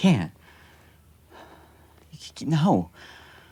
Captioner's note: inhales and exhales